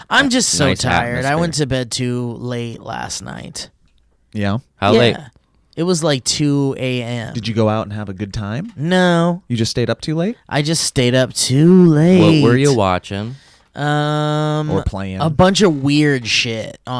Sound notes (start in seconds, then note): none